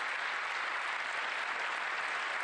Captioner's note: applause